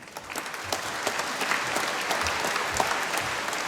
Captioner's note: applause